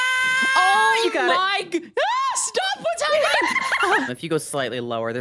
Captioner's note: laughs